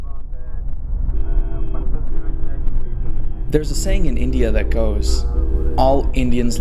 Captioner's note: honking